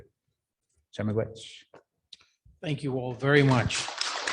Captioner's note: speaking Anishinaabemowin; audience applauding